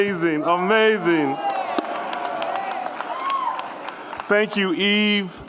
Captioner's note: audience cheers and applauds